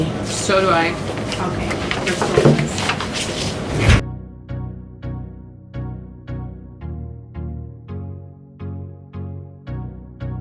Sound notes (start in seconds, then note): 2.8 paper rustling; 3.8 upbeat music